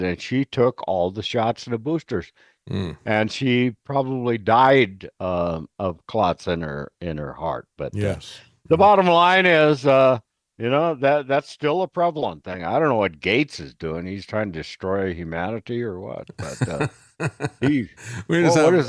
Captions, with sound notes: And she took all the shots and the boosters and she probably died of clots in her heart. The bottom line is, that's still a prevalent thing. I don't know what Gates is doing. He's trying to destroy humanity or what. (Laughing)